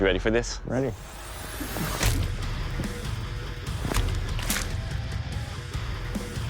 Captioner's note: impact sounds